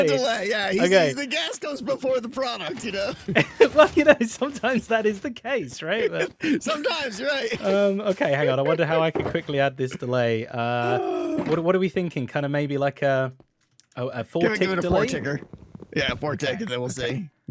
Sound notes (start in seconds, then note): 5.9 laughs